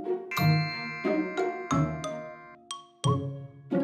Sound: inquisitive music; bells chime

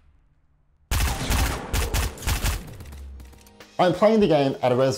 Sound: machine gun fire

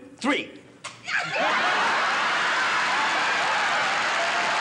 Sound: audience laughing

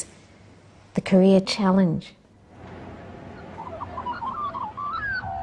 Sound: birds chirp

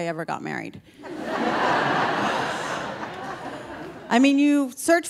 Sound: audience laughing

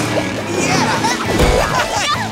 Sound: laughing

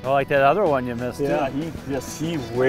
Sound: voiceover

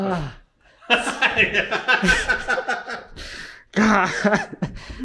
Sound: laughing

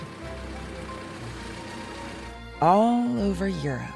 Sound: engine revving; upbeat music

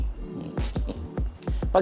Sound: chuckles

